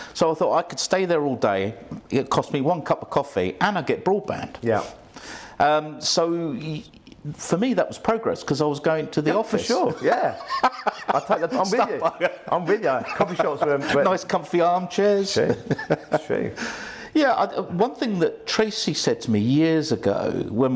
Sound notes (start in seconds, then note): 9.3 laughs